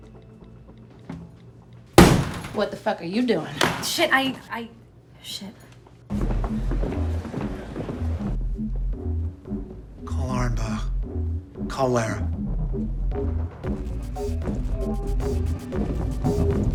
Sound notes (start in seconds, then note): 2.0 door slams; 6.2 upbeat music; 13.9 upbeat music continues